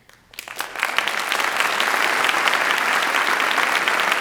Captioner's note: audience applause